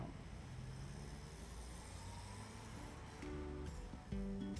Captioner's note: sound of traffic